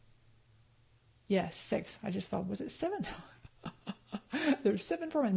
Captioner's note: laughs